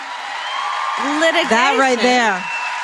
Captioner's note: applause